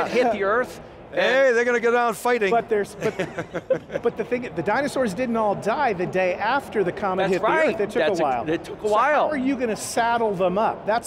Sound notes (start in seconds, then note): 2.9 all laughing